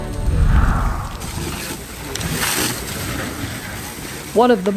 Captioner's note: water spraying forcefully